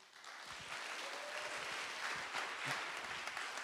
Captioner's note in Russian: Аплодисменты